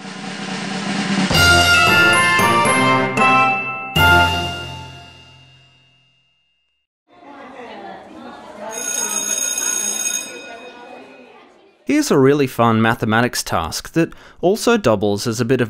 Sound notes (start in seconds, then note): 1.2 upbeat music; 7.2 bell ringing over children chattering